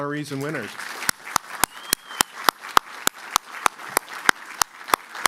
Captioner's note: applause